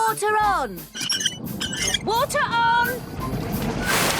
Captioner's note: wheel squeaking